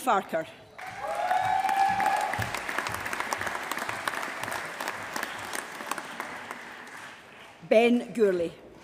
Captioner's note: applause